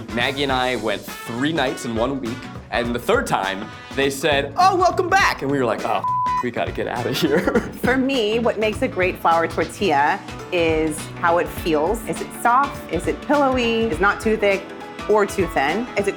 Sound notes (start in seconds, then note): 6.0 beep